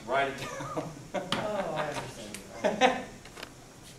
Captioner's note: laughing